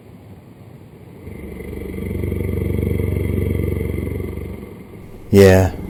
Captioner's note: creepy sound